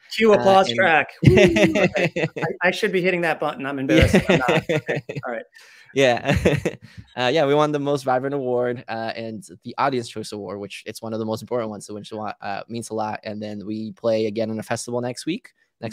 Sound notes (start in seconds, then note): 1.2 laughing; 6.6 laughs